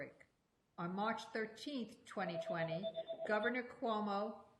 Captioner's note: phone rings